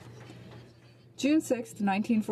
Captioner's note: some Applause